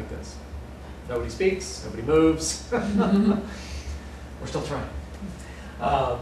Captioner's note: laughter